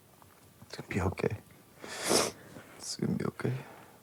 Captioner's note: Megan sniffing